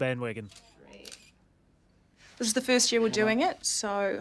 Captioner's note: camera snaps